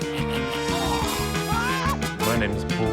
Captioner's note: groans; exclaims